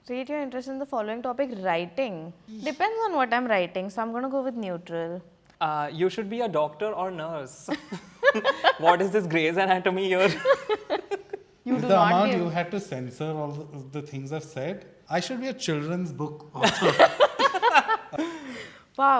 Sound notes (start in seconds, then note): 7.7 laughing; 16.6 all laughing